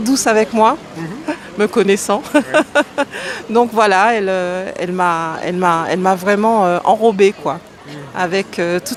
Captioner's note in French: rires